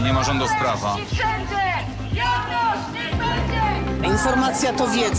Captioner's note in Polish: okrzyki demonstrujących